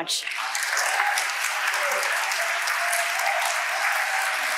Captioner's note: audience applauding